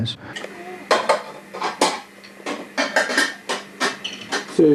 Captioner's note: dishes clinking